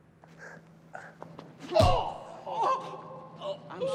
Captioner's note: grunts; punch thuds; gasps for air